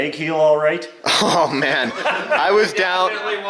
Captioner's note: laughing